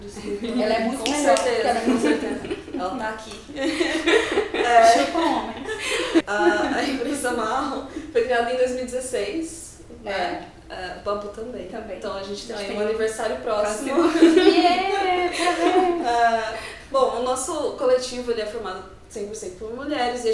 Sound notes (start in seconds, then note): 13.8 celebrating